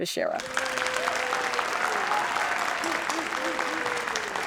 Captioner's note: audience applauding